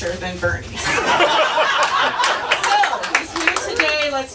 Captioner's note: audience laughs